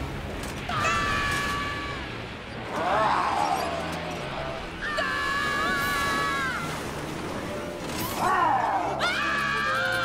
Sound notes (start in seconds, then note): 0.7 screaming; 7.8 roaring; 8.2 screaming